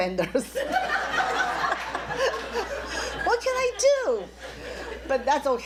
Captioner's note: laughs